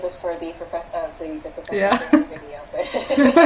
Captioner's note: laughter